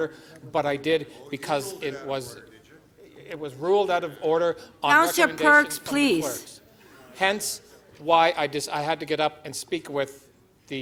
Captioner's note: away from Mic